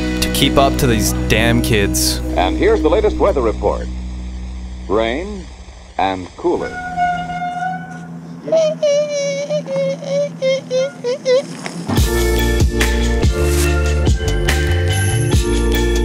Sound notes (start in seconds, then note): 8.6 makes screeching sound; 11.9 light upbeat music